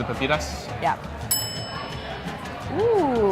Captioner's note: bell dinging